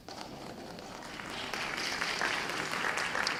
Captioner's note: applause